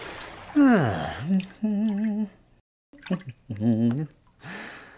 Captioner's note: humming